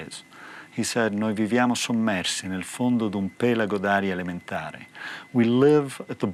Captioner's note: speaking in foreign language